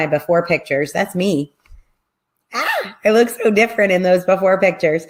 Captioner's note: gasps